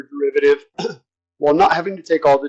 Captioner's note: cough